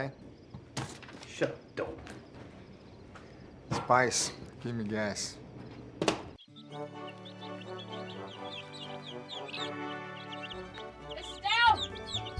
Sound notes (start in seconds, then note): 4.8 birds tweeting; 4.8 lighthearted music